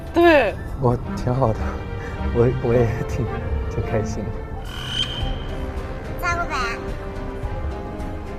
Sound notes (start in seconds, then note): 5.9 someone is praying